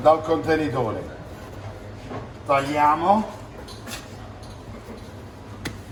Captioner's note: speaking in foreign language